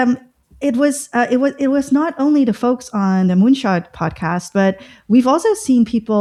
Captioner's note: uh